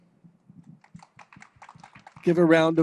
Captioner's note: applause